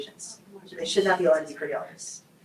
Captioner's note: group murmurs